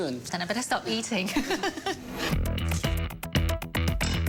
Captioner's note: laughs